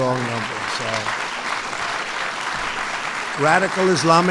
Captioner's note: applause